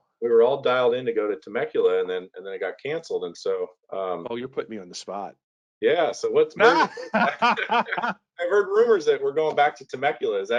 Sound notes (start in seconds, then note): 6.6 both laughing